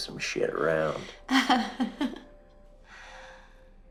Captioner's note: chuckling